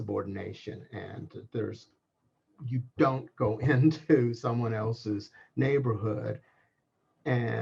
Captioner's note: laugh